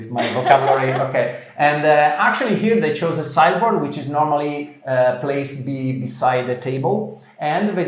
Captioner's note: laughter